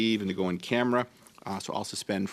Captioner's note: speaking French